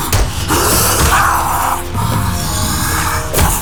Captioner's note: gunfire